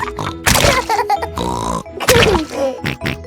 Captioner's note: laughs and snorts